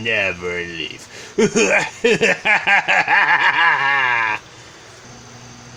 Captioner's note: Totally Not Palpatine's Evil Laugh